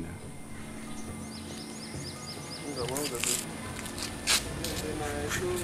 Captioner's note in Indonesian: suara kicauan burung